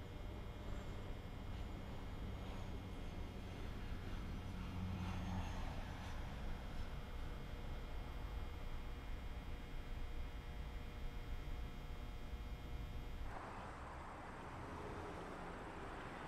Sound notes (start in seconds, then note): 4.3 plane hums overhead